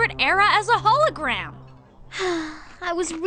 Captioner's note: sigh